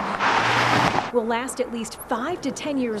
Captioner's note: vehicle whirring